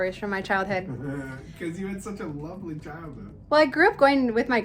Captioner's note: laughs